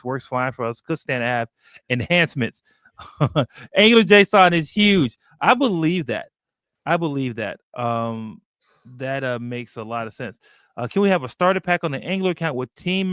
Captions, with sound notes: Works fine for us. Could stand to add enhancements." [CHUCKLES] Angular.json is huge. I believe that. I believe that. That makes a lot of sense. "Can we have a starter pack on the Angular account with team